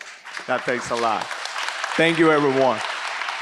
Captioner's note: audience applauds